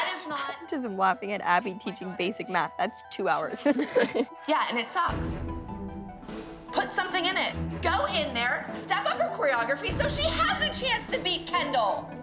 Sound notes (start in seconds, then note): 3.6 laughs